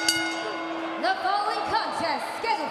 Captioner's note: bell ringing